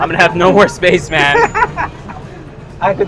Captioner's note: laughs